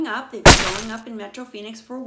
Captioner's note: smashing sound